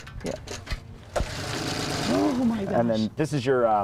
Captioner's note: engine Putters